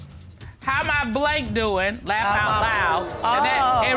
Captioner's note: judge dana reading